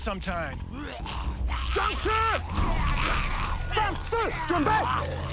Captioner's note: snarling; shouting in mandarin